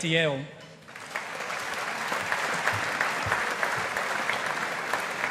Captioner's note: audience applauding